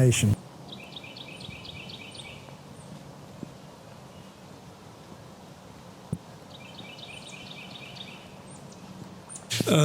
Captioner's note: no dialog... outdoor noise... wind & birds